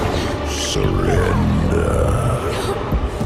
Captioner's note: demonic voice